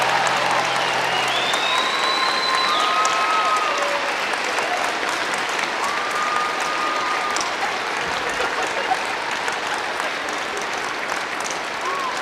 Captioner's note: cheering and applause